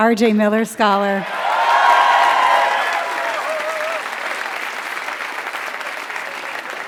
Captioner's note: applause